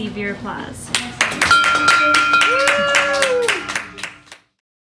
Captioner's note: clapping; bell ringing